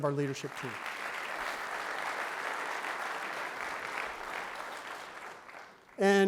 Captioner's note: clapping